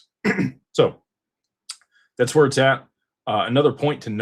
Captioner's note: clears throat